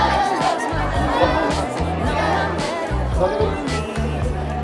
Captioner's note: Taekwondo friends counting in Korean